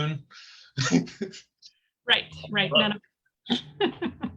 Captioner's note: laughing